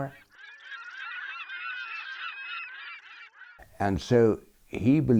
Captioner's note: birds squawking